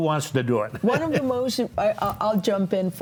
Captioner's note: laughs